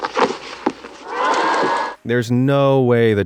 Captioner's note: kids cheering